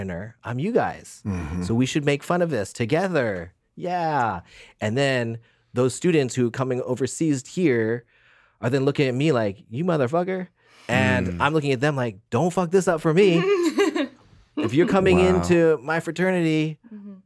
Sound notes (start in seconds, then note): 13.1 laughs